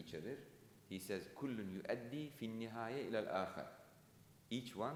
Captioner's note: speaking in foreign language